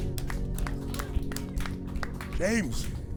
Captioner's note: applause